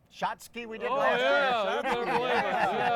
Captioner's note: all laughing